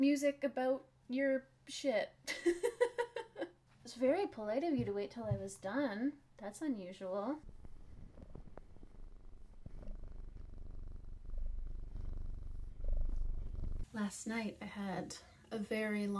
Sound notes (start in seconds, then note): 11.3 loud Garold purring